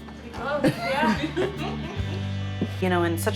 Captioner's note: laughs